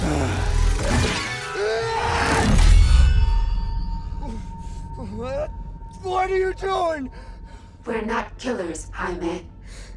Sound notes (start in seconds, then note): 0.0 roars